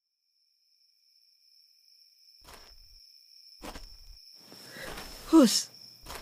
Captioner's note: nighttime ambiance replaces party chatter